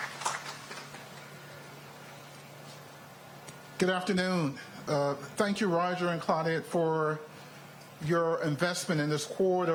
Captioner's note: applause